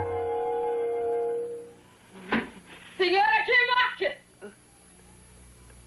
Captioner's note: knocking